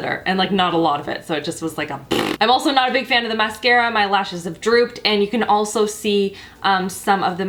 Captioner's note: blows raspberry